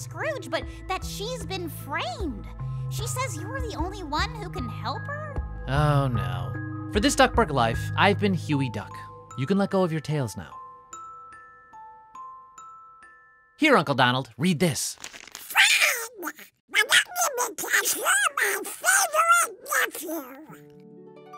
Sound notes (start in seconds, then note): 14.9 paper rustling; 21.1 light comedy music